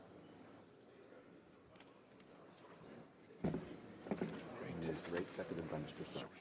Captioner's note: none